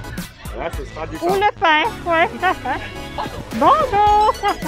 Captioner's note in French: rire